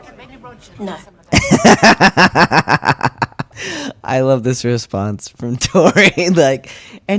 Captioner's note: laughter